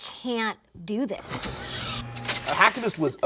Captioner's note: electronic buzzing